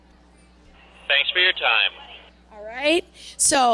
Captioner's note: robotic Voice